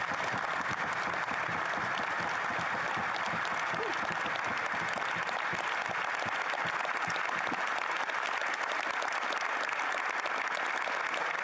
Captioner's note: applause